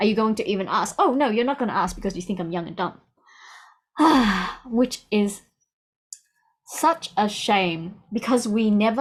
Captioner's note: sigh